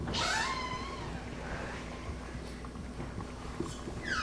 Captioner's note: door creaking